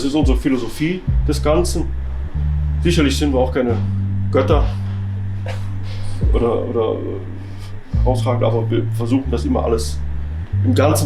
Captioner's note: laughs